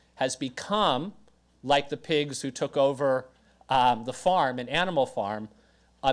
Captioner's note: none